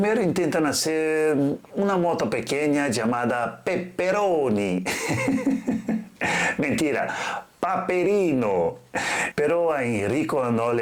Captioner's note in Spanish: risas